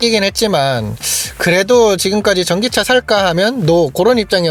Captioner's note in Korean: 스읍